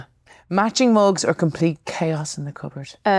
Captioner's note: none